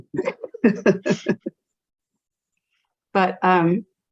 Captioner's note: all laughs